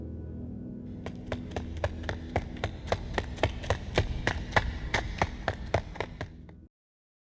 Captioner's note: the sound of someone running - getting closer